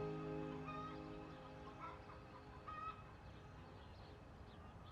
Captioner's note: chickens squawking